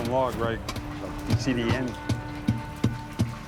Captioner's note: thudding on wood